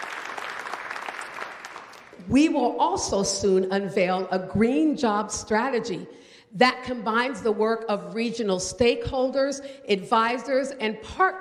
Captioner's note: applause